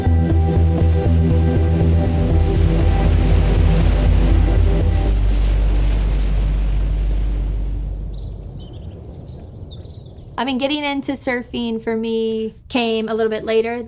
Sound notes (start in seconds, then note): 0.2 gentle music; 3.3 waves crushing; 7.7 birds chirping